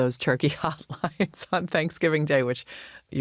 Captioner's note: laughs